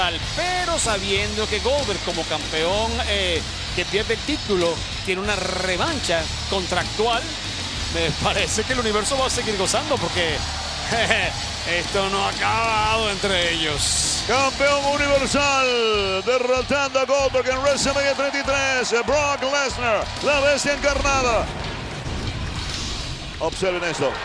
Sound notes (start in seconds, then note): 11.4 laugh